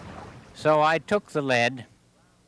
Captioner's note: none